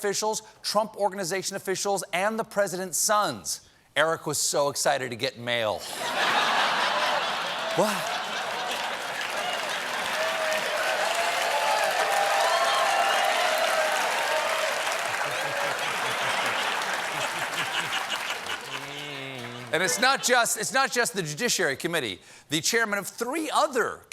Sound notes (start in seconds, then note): 5.8 laughter; 6.0 cheers and applause